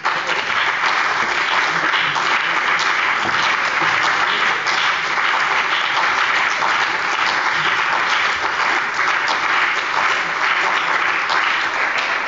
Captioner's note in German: Anhaltender Beifall bei dem BÜNDNIS 90/DIE GRÜNEN – Beifall bei der CDU